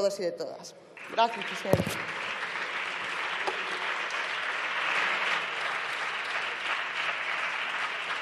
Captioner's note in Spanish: Aplausos